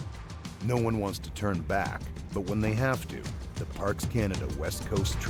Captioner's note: voiceover